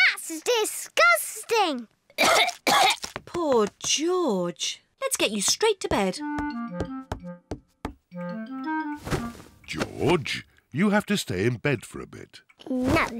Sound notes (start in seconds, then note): 2.1 coughs